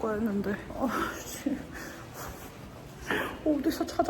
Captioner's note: sigh